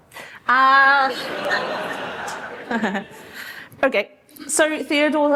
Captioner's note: laughter